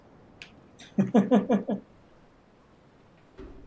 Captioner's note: chuckles